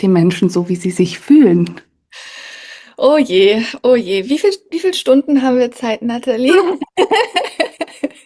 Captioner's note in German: gelächter